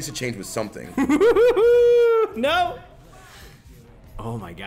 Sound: laugh

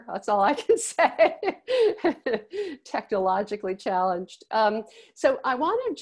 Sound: laughs

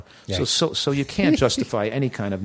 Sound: laughing

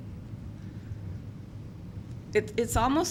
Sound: none

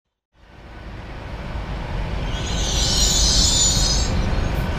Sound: train noise

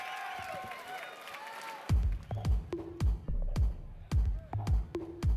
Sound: cheers and applause

